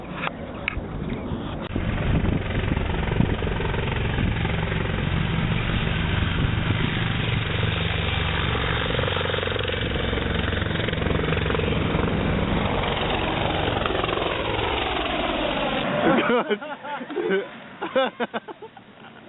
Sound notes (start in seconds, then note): 2.0 helicopter blades whirring; 13.0 helicopter blades continues whirring; 15.8 soldiers laughing